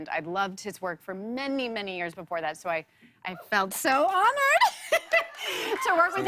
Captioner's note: laughs